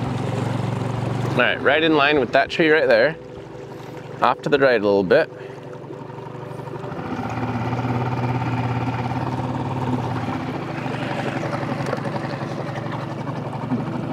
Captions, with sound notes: Alright, right in line with that tree right there, off to the right a little bit, (motor rustling) (soft music)